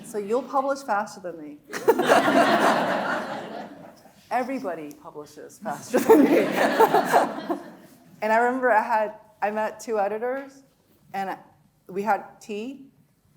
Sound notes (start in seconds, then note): 1.7 audience laughing; 1.7 laughing; 5.8 laughing; 5.8 audience laughing